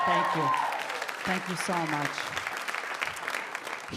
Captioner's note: audience applauding